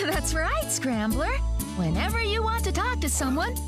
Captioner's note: laughing